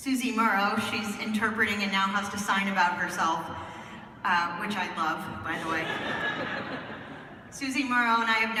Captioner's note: laughter